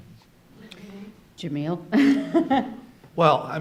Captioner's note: laughing